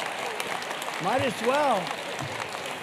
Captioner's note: applause